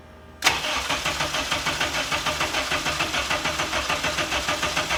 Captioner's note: car engine revving